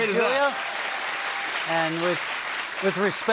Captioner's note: cheers and applause